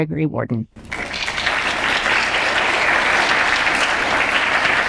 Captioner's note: audience applauds